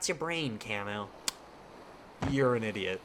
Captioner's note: smacks lips